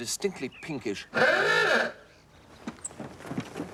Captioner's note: car horn